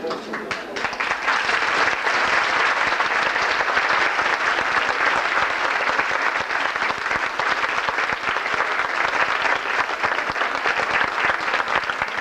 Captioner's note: applause